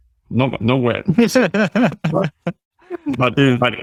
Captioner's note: laughing